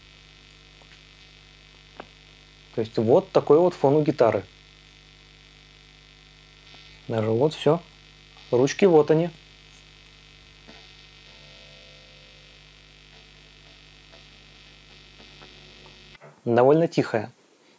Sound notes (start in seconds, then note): 0.1 Hum noise; 4.6 Hum noise; 9.7 Hum noise